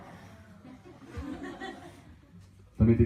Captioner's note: laughter